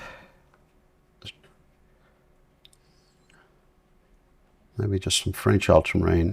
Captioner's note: silence